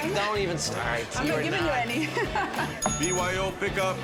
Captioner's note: laughs